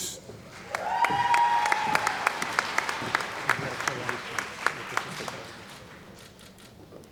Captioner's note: cheering & Applause